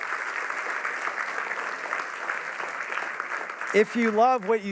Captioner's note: applause